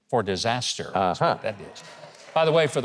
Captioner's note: audience laughing